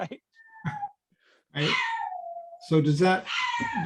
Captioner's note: laughing; dog howling